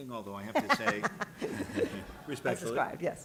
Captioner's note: laughter